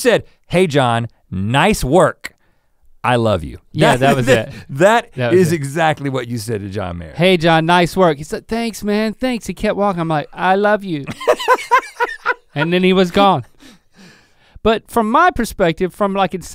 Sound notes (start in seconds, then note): 11.0 Rhett laughing